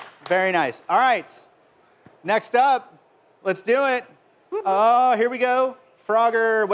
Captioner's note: applause